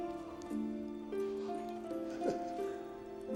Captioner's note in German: Kichert